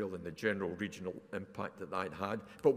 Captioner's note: none